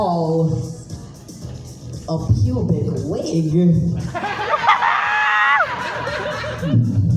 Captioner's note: audience cackles